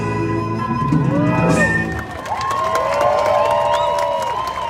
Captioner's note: crowd cheering